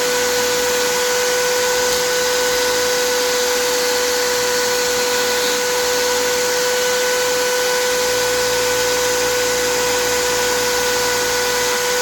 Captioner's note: grinding sound